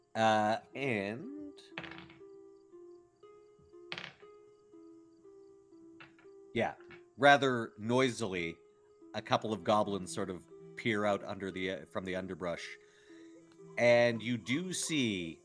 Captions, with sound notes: - And... (dice tapping) (suspenseful music) Yeah, rather noisily a couple of goblins sort of peer out under the, from the underbrush and you do see